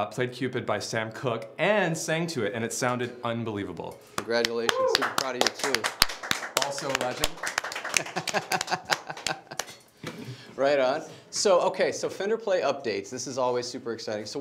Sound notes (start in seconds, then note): 6.2 applause; 7.8 laughs